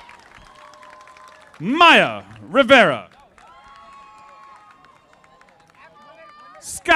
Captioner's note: audience applauding